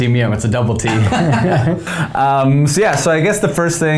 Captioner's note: both laugh